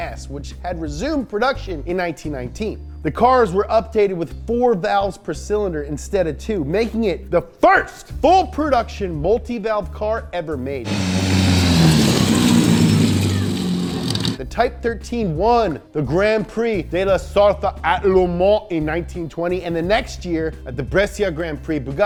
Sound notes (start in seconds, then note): 10.8 engine rumbling